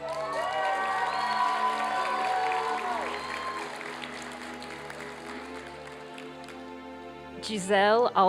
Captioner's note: applause and cheering